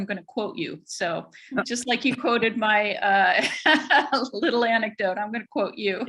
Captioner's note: laughs